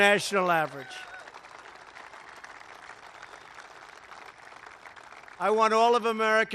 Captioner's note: applause